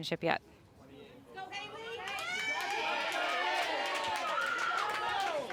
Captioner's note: crowd cheers and applauds